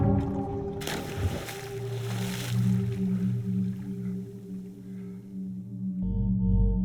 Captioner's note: music calms; water splashes; pensive music